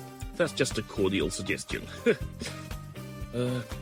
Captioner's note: chuckle